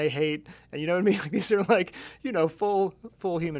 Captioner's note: laughing